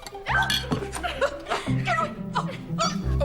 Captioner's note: yelps